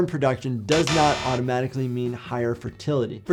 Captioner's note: buzzer buzzes